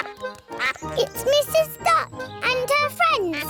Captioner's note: brays; both giggle